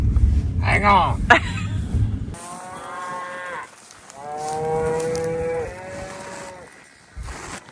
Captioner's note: laughs